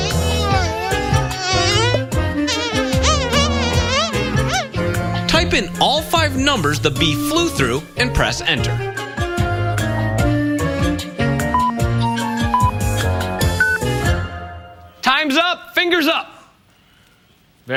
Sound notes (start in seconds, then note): 5.2 bee flying